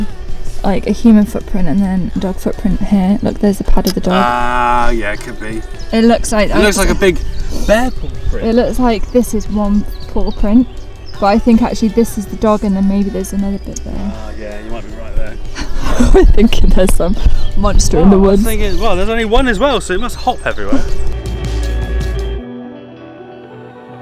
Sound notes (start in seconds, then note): 15.4 laughing